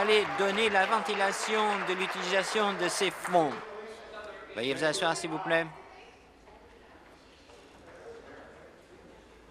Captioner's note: applause